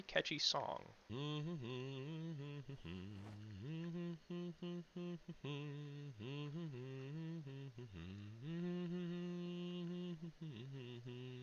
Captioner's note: humming